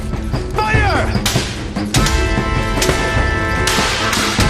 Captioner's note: gunshot banging